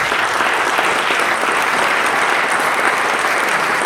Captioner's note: applause